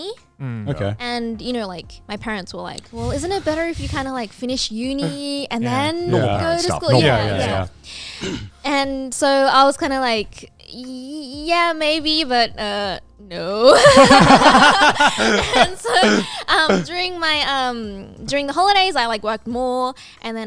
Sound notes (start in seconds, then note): 13.7 everyone laughing